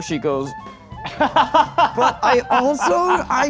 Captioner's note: laughing